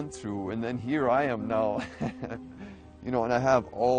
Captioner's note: laughs